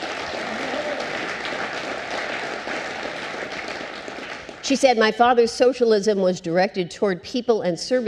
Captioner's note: applause